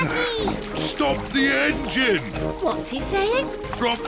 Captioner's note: splutters